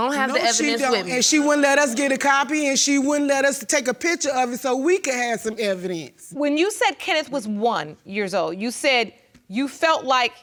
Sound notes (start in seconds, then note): none